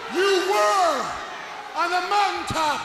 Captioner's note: crowd cheering